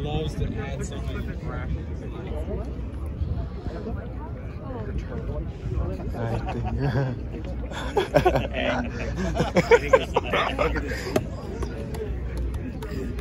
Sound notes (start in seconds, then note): 7.7 laughing